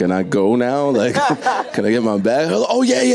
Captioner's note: audience and panel laughing